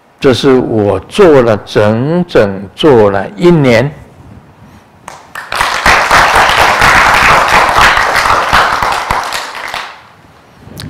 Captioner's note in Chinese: 眾鼓掌